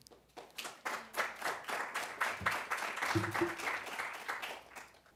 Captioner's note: applause